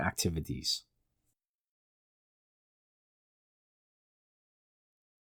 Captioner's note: pause